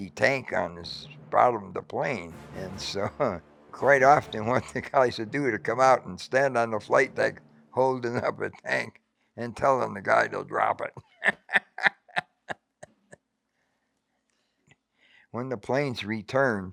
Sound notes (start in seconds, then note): 10.8 laughing